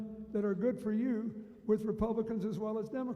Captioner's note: none